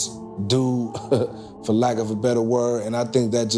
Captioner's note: laughing